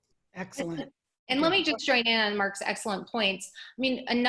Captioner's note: murmurs